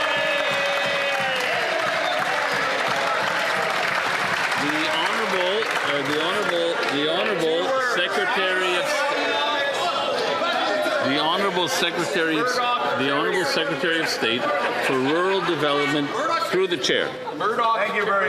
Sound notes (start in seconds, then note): 1.5 some Applause